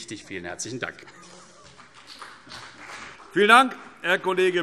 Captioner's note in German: Beifall CDU und BÜNDNIS 90/DIE GRÜNEN